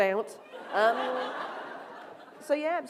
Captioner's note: laughter